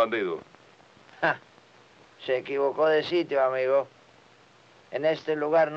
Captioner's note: laughs